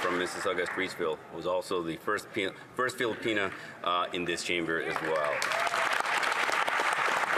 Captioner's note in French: voix de l'interprète